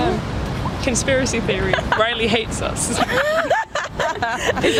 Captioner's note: laugh